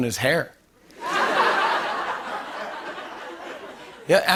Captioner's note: laughter